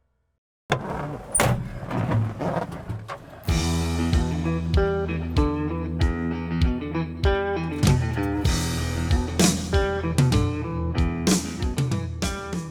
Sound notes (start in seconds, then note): 0.7 door slams; 3.6 upbeat music